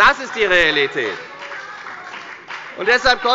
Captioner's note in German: Beifall bei der FDP